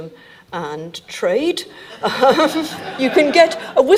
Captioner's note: audience laughing; chuckling